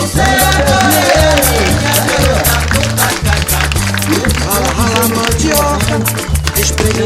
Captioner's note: clapping